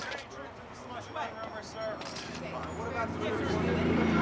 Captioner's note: clamoring